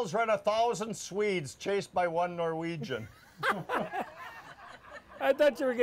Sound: all laugh

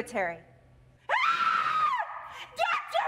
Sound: loudly screams

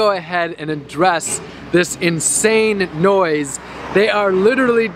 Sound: speaking over noise

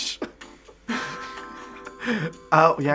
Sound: chuckle

